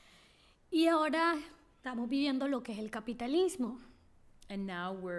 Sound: speaking spanish

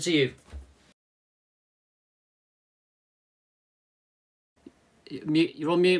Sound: silence

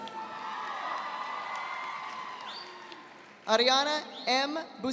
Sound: audience applauding

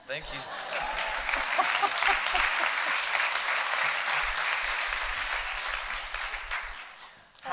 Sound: applause

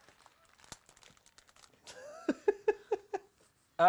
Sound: laughing

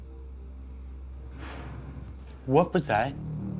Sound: bang

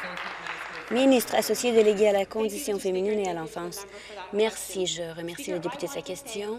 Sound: applause

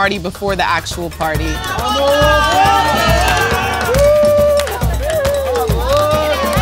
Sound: people cheering in the streets

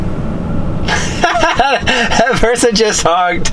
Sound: laughs

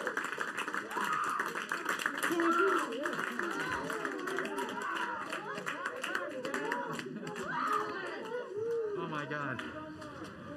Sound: applauding

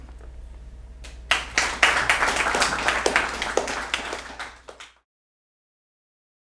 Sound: clapping

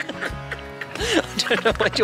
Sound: boys cracking up

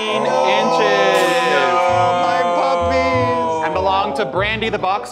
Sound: everyone gasping

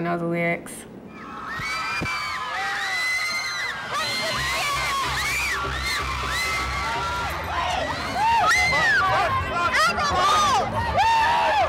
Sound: crowd cheering and screaming

